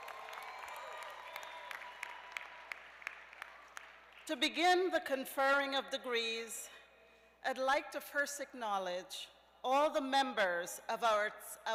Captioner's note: cheers and applause